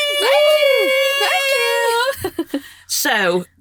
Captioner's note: chuckles